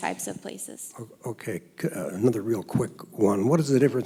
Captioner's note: voiceover